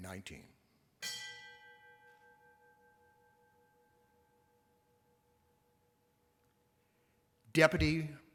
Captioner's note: bell rings once